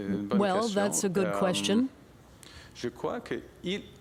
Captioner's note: speaking French